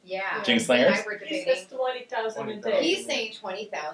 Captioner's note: overlapping chatter